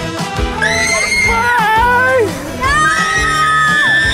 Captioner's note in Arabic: صراخ أطفال; صرخات